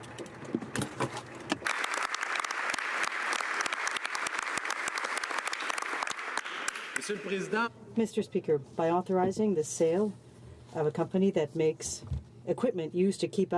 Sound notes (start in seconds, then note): 5.1 applause